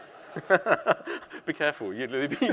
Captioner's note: audience laughing; laughing